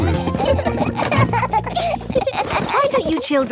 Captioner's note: children laughing